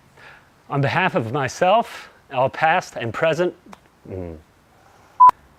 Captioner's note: hmmm